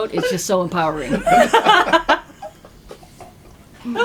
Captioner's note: laughter